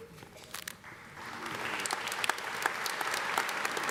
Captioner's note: applause